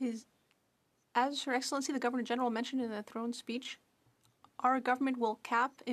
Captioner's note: speaking French